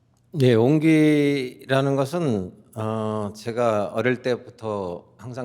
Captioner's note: speaking in Korean